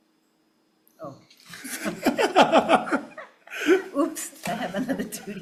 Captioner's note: everyone laughs